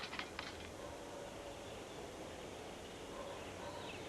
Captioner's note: dog barking